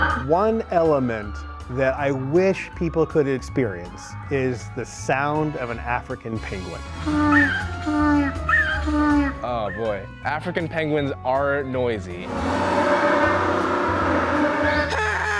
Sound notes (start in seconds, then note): 7.1 african penguin braying; 12.2 African penguins braying; 15.1 attempting the braying sound